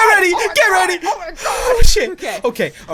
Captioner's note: cry